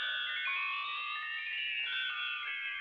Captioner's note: none